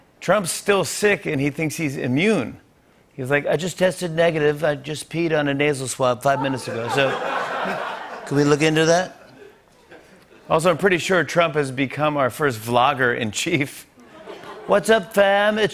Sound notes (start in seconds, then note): 3.4 As Trump; 6.3 laughter; 14.0 laughter; 14.5 As Trump